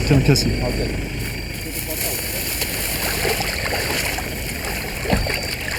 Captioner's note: speaking in foreign language